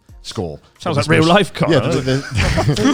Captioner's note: laughs; chuckling